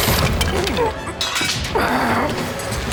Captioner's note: debris clattering; knife clangs; Chuck groaning